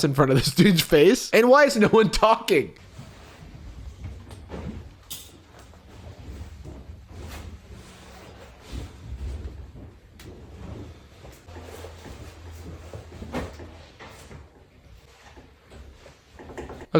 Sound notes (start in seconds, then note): 2.6 white noise